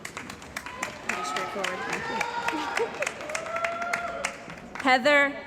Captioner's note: cheering & Applause